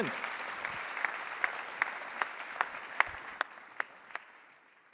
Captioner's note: applause